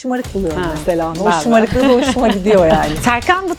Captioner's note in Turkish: kahkaha